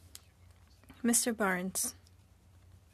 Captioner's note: speaking French